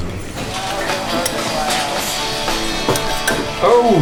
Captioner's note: busy kitchen with radio